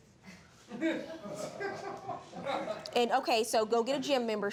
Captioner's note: audience giggling